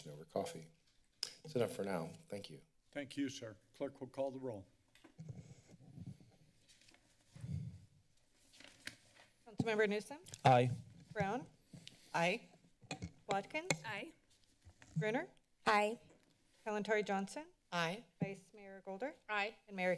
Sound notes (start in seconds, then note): 8.3 papers rustling